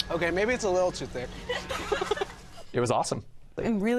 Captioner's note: laughter